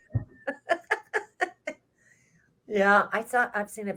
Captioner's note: laughs